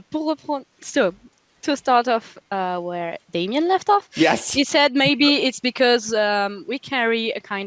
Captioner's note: translating from French